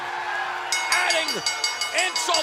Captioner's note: bell ringing